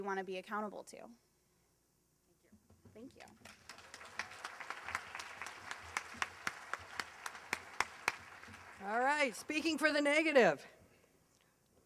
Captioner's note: applause